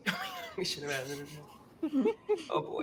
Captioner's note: chuckles